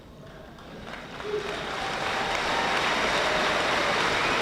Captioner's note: audience applauding